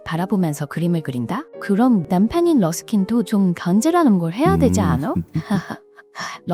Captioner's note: laughs